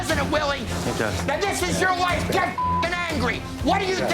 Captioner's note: beep